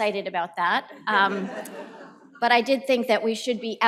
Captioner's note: laughter